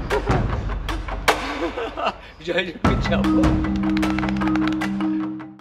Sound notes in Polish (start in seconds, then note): 3.7 Aplauz